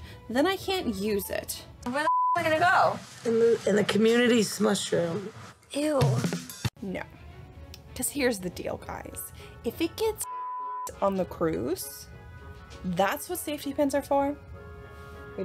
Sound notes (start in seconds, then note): 1.9 beep; 10.2 beep